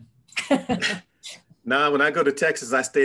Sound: laughs

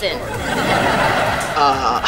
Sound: laughing

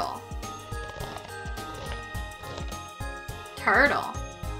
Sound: turtle munching

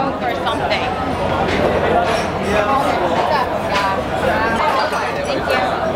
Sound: loud chattering and clinking of ceramic ware

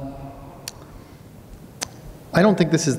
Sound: clicks tongue

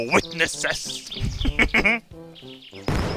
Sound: chuckling

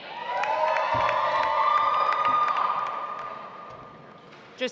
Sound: audience applauds

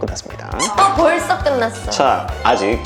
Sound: aww

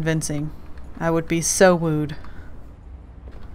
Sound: sarcastic

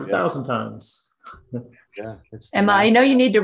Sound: laugh

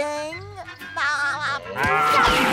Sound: laughing

